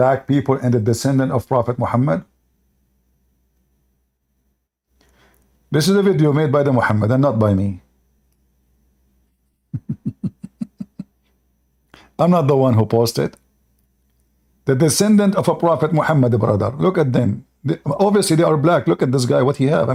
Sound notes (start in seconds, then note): 9.7 Ketawa